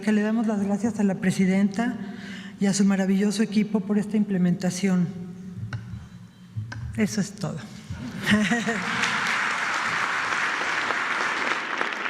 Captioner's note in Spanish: aplausos